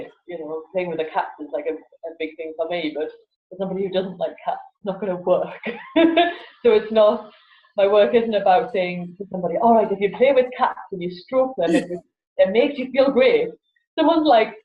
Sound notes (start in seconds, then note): 5.7 laughs